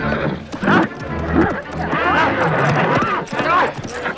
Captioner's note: townsfolk murmuring; man shouting